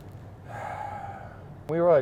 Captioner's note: sigh